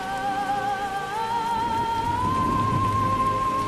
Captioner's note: thunder rumbles